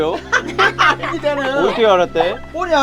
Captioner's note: everyone laughing